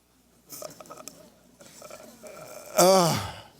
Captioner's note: stutters